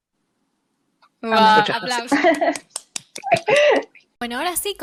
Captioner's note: applause